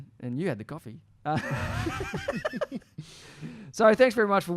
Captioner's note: laughs